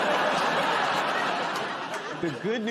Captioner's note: laughter